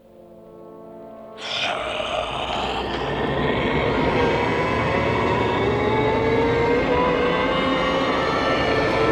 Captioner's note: loud Moaning